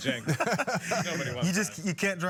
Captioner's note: laugh